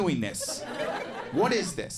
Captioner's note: audience laughing